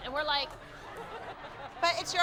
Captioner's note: laughter